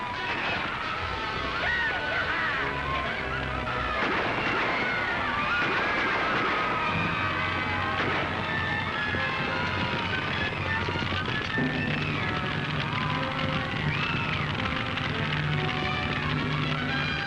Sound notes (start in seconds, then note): 4.0 gunshots; 4.0 screaming; 8.7 fire roaring & screaming